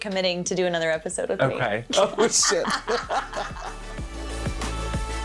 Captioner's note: both laughing; driving modern music